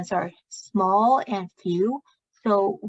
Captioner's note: speaking chinese